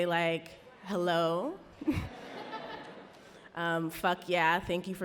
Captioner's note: audience laughs